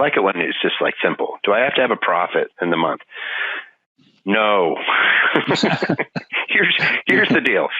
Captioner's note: laughing